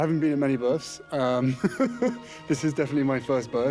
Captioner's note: laughs